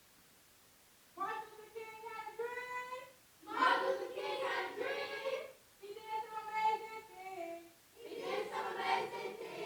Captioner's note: away from Microphone